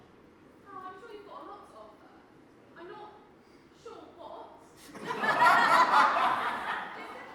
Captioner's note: audience laughs